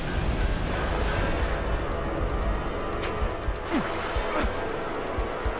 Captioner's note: Dana gasping and choking